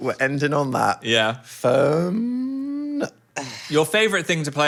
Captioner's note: none